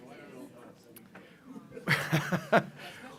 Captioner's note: laugh